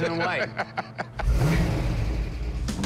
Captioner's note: laughs; revving